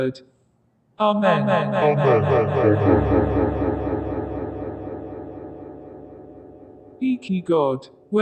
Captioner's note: echo